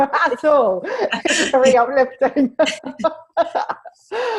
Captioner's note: laughs